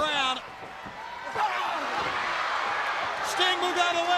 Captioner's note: crowd cheering